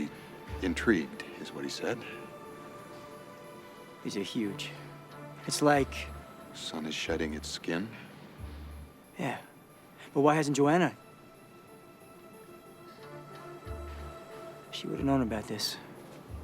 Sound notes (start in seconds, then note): none